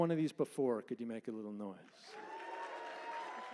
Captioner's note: louder applause and cheering